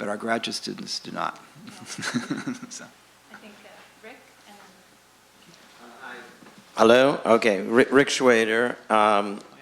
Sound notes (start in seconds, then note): 1.6 laughs; 3.8 voiceover